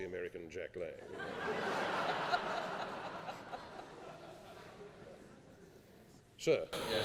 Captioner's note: laughing